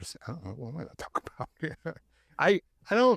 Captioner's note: chuckles